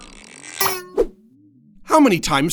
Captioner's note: cards twang